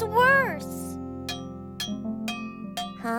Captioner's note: clanking